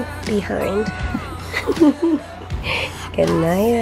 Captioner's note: chuckling